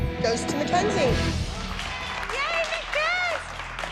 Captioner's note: cheers